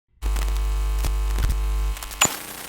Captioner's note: electrical hum, static; button clicks twice, radio scanning